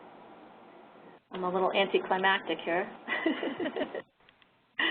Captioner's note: laughter